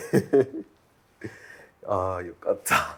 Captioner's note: laughter